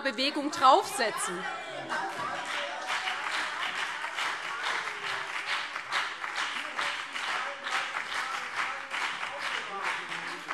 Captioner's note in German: Beifall BÜNDNIS 90/DIE GRÜNEN und CDU - Lebhafte Zurufe DIE LINKE